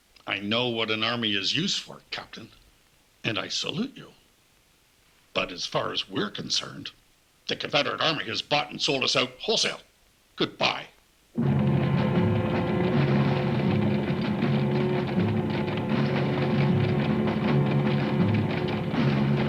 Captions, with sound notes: - I know what an army is used for, captain, and I salute you. But as far as we're concerned, the Confederate Army has bought and sold us out wholesale. Goodbye. (tense music) (hooves thudding)